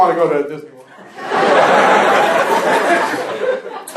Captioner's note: laughter